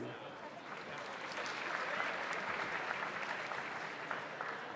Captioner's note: audience applauds